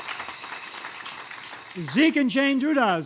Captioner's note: applause